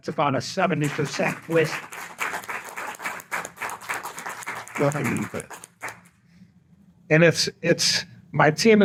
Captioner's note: applause